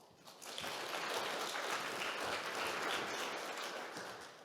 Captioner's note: audience clapping